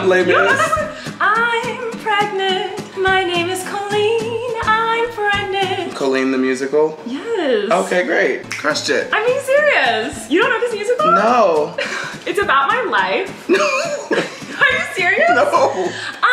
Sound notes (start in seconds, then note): 8.5 snaps fingers; 13.4 laughs